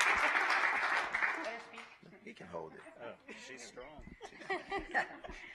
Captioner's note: applause